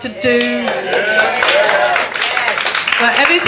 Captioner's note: clapping